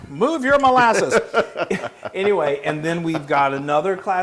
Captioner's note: laugh